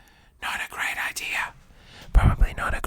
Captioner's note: whispering